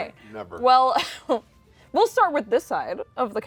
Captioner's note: laughs